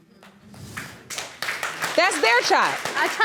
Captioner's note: audience applauding